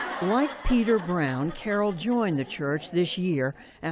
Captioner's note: laughter